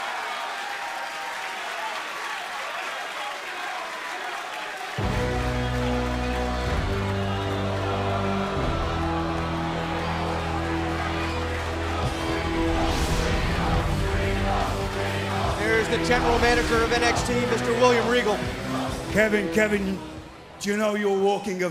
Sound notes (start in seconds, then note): 0.3 cheers & applause; 14.6 fans chanting